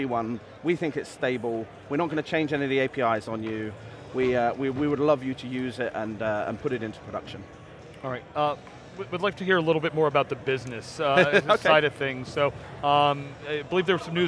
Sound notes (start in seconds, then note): 11.8 laughs